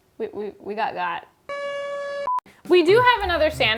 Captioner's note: alarm blaring